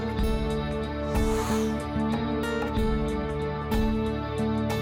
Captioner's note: air whooshing